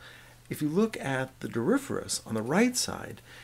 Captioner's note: voiceover